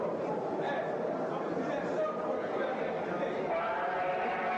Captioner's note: indistinct chatter